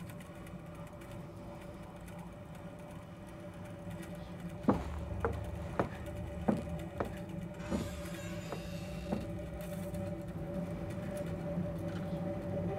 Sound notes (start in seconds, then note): 4.3 pattering footsteps; 7.5 door creaks